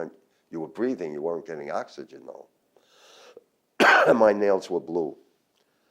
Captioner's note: coughs